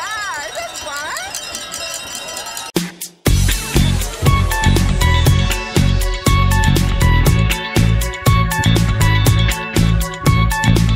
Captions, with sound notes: Yeah, isn't this fun? (crowd cheering) (glasses clinking)